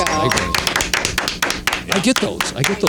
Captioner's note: clapping